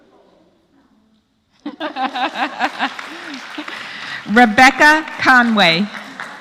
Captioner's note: laugh; applause